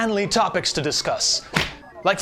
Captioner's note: fist noise